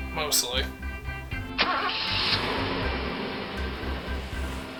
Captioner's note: car engine revs up